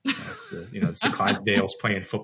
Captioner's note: laughs